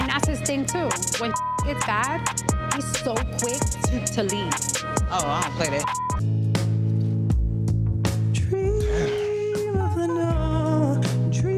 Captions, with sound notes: And that's his thing, too. When (beep) gets bad, he's so quick to leave. - Oh, I don't play that (beep). (soft, solemn music) - Damn.